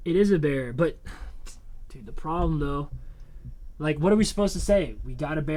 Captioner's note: sighs